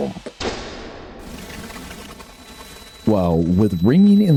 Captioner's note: loud boom, birds flapping